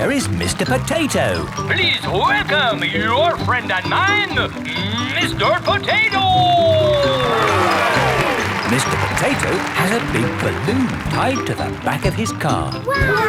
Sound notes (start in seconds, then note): 7.8 cheering